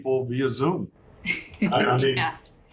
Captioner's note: laughs